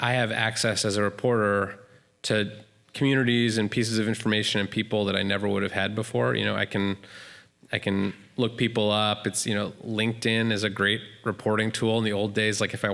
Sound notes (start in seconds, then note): none